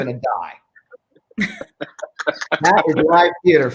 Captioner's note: group laughing